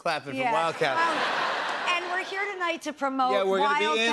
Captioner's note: laughter